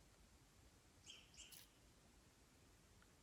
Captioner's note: birds chirping